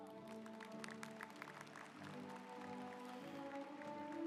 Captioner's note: audience applauds